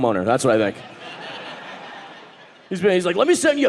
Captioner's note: audience laughing